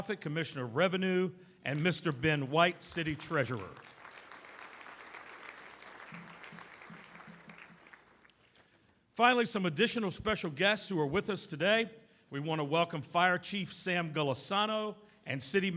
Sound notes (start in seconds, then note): 3.9 applause